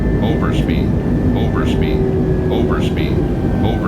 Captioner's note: engine slows